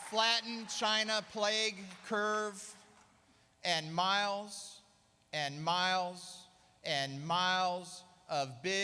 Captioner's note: applause